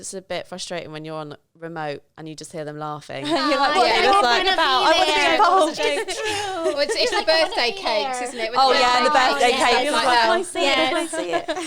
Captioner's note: laughing